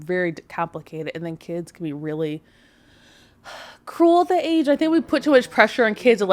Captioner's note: sighs